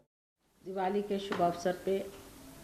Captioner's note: Hindi